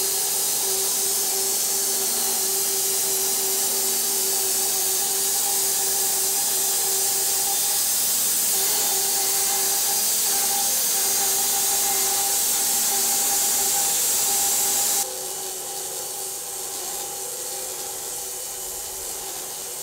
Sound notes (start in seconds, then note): 3.6 saw buzzes